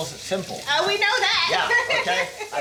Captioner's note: laughs